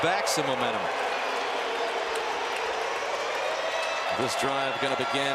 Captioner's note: siren